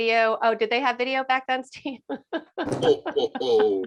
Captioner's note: laughing